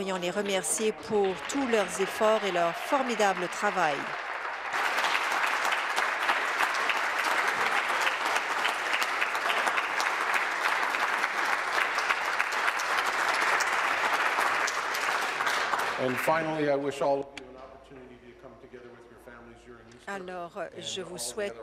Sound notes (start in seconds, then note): 6.0 applause